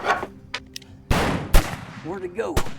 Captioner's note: guns firing